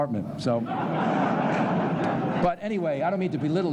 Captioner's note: laughter